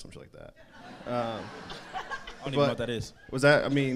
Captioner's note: crowd laughs